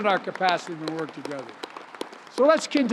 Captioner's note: applause